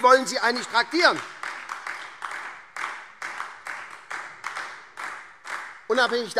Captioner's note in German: Beifall SPD und DIE LINKE